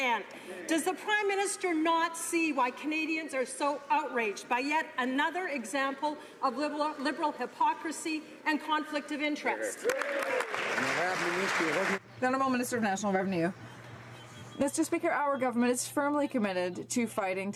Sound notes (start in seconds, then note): 12.8 some Applause